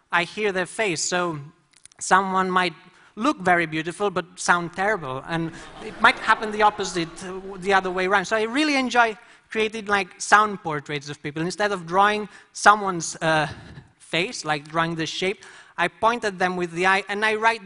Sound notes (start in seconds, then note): 5.4 laughter